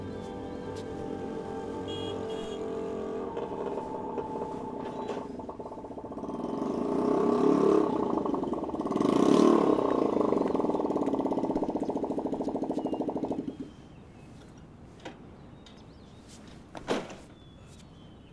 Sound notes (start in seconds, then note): 1.9 moped beeping